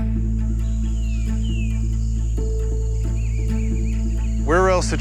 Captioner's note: crow cawing and birds chirping